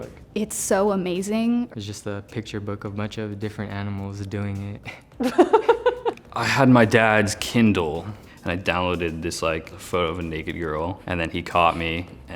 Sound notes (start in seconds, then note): 5.2 interviewer laughing